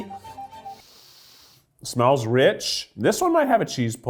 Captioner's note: inhales deeply